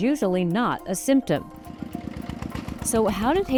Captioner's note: engine sputtering